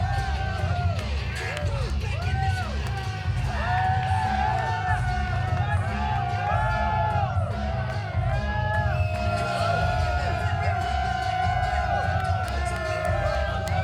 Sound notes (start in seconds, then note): 0.1 crowd cheering; 0.1 upbeat pop music continues; 5.3 crowd cheering